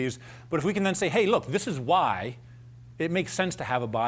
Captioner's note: none